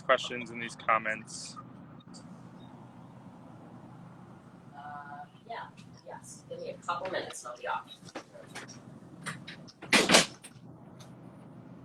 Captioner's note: door slams